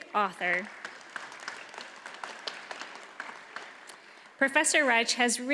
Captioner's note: audience applauds